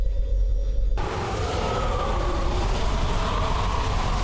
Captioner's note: wind whooshing